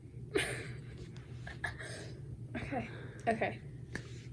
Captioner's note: laughing